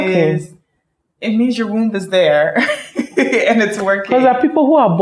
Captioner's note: laughs